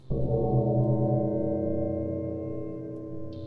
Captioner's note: gong ringing